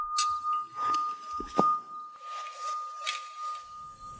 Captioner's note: clank; body hits ground; sword rings